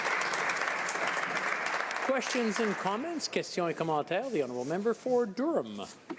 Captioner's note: applause